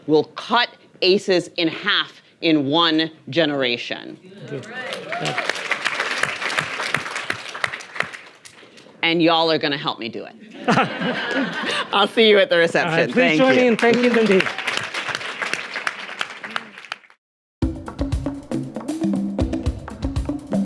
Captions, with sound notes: will cut ACEs in half in one generation. - You're right! (audience applauding) - And y'all are gonna help me do it. (audience laughing) I'll see you at the reception, thank you. (audience applauding) - All right, please join me, and thank you, Nadine. (percussive music)